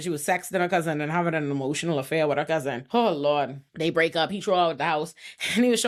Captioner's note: none